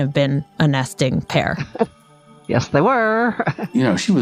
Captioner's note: laughs